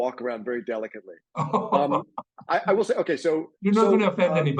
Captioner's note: laughing